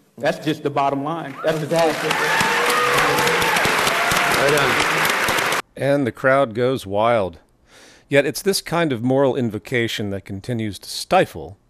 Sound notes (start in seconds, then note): 1.2 audience cheering